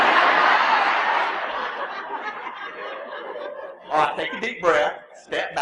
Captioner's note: laughter